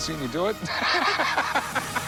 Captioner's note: laughs